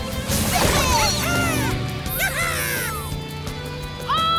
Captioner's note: cheering